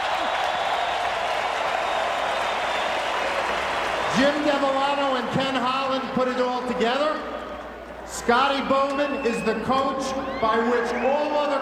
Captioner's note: applause